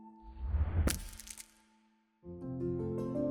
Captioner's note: shattering